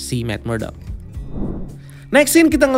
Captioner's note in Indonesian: suara transisi